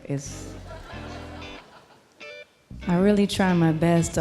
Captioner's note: tranquil ambient music; audience laughing